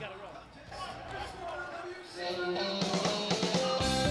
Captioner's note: crowd chatter